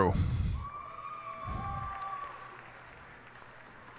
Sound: cheers and applause

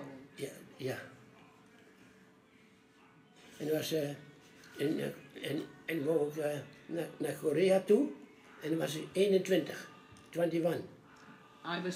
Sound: foreign language

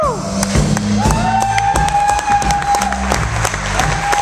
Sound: applause and cheering

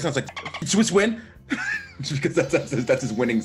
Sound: laugh

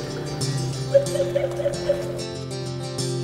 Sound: laughes

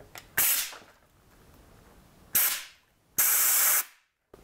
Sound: blow gun hissing

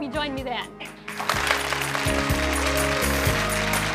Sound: applauding

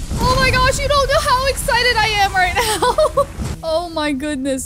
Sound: laughs

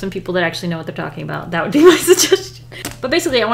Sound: laughs

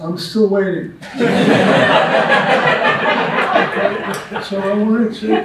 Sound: audience laughs

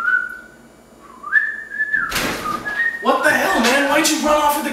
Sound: whistling

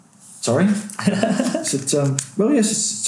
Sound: laughing

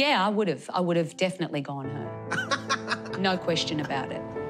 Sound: laughs

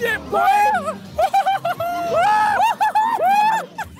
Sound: screaming

